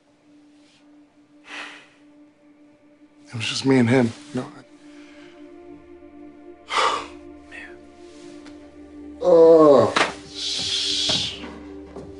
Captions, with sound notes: It was just me and him, you know? And... [sighs] Man. Oh... Sh--